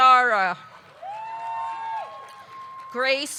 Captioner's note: audience clapping; audience cheering